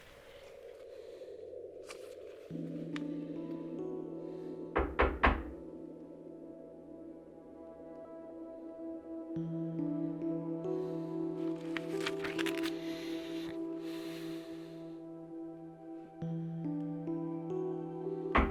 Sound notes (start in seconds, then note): 3.0 knocking; 3.0 mysterious music